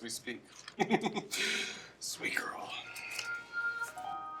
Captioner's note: laughs